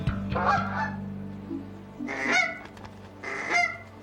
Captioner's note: goose quacks